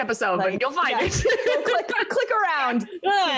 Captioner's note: laughs